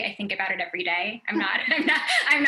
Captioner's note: laughter